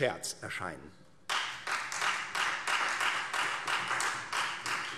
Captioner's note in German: Beifall Freie Demokraten